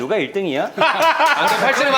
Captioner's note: crack up